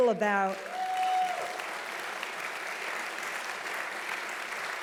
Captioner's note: audience applauding loudly